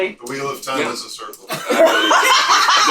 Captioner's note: laughter